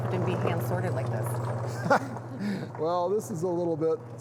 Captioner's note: laughing